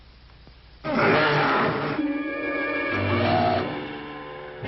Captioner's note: werewolf growling; Priscilla shrieks